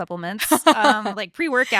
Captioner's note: laughing